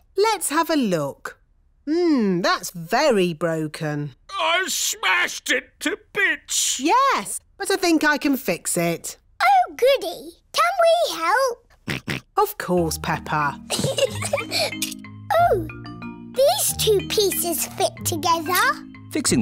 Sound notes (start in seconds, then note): 11.8 snorts; 13.6 giggles